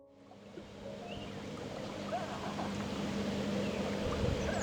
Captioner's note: birds chirping